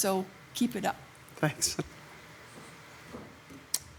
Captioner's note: laughs